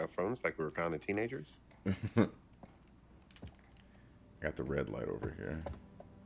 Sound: laugh

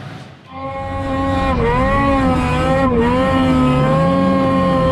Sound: engine whirring

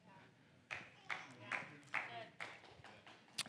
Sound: congregation applauds

